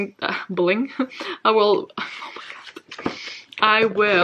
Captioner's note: whispers